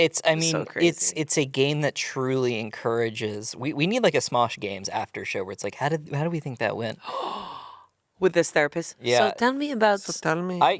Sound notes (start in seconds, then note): 7.0 gasps